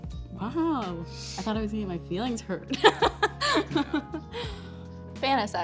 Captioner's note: laughs